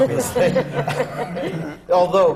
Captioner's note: laughter